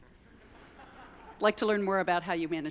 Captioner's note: audience laugh